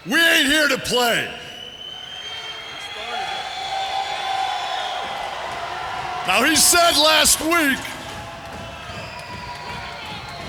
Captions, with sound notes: We ain't here to play. You started it. (crowd cheering) Now he said last week...